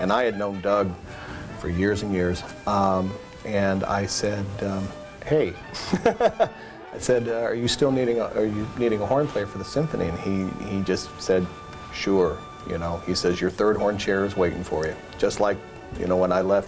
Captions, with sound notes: THE ENID SYMPHONY, AND I HAVE KNOWN DOUG FOR YEARS AND YEARS; AND I SAID HEY [LAUGH], I SAID, ARE YOU STILL NEEDING A HORN PLAYER FOR THE SYMPHONY? AND HE JUST SAID, SURE, YOU KNOW, HE SAYS, YOUR THIRD HORN CHAIR IS WAITING FOR YOU.